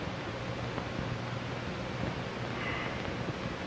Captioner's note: sighs